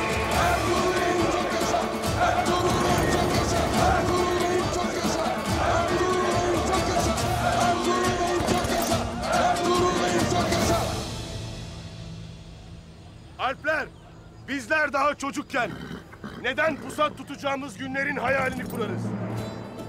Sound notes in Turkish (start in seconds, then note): 0.0 Hep bir ağızdan